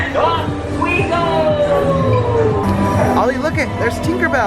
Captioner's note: male Voice